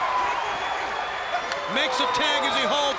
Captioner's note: crowd cheering